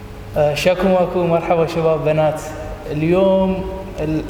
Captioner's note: speaks In Arabic